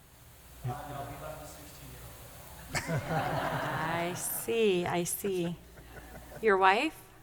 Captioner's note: laughter